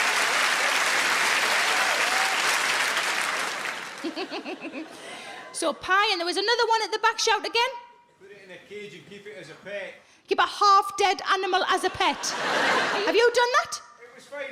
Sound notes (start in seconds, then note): 4.0 Sarah giggles; 11.9 audience laughs